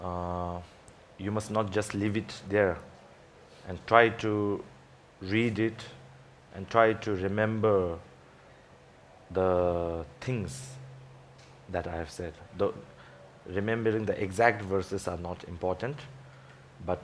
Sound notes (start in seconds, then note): none